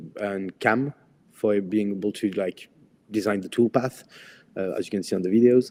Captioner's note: none